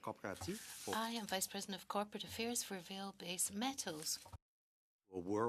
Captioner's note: speaking French